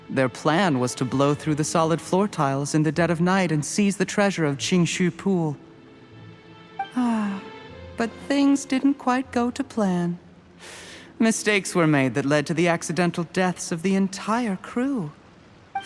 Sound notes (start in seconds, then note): 6.9 sigh